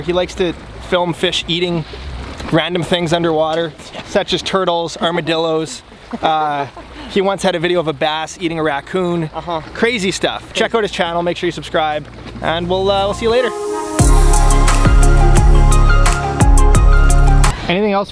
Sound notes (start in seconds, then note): 6.0 laughs; 13.0 upbeat techno music